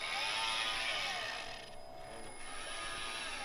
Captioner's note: winding sounds